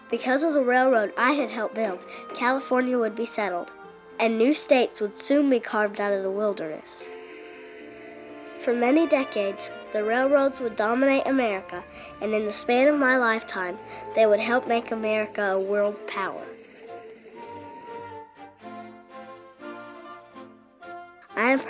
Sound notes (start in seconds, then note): 7.2 train whistling; 17.0 upbeat orchestra music